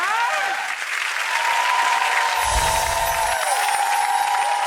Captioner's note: applause